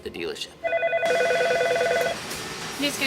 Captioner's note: phone ringing